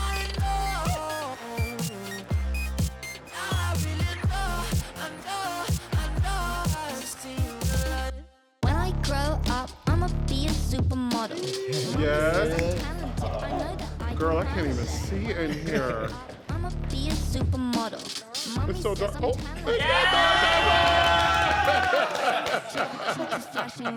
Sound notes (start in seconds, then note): 11.1 group cheering; 15.8 person chuckling; 19.7 group cheering and laughing